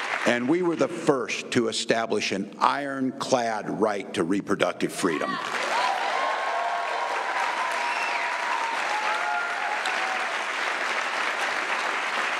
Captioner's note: applause